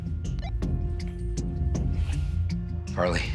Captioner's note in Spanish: Bip